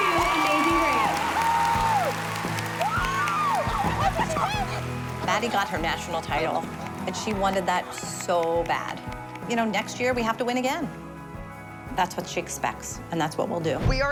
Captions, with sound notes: --Amazing Grace. [cheering] Maddie got her national title, and she wanted that so bad. You know, next year we have to win again. That's what she expects, and that's what we'll do.